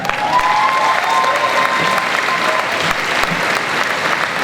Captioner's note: crowd cheers and applauds